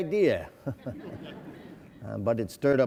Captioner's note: laughing